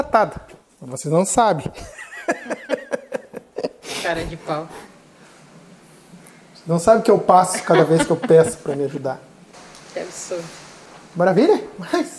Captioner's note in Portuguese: risos